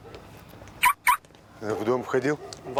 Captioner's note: car alarm beeps